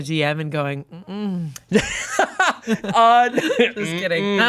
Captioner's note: laughs